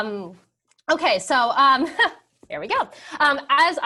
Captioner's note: laugh